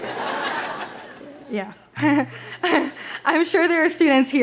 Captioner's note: audience laughs; giggles